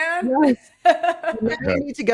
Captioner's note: laughing